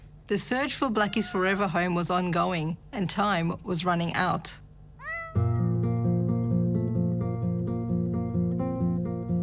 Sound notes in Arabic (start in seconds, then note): 5.0 مواء بلاكي; 5.4 موسيقى خفيفة